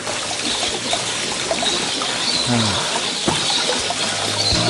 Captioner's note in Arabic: قرقرة الماء; تغني العصافير; موسيقى هادئة